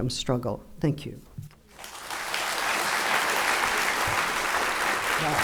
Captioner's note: audience clapping